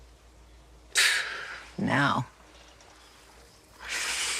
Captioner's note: exhales sharply